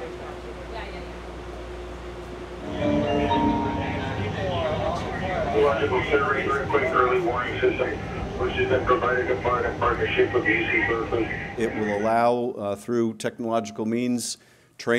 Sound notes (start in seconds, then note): 5.5 man speaking over public address system